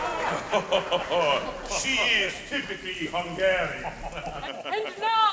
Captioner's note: laughing